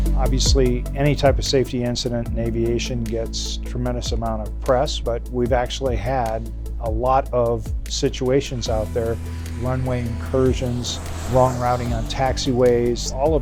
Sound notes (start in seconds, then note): 8.2 plane engine roaring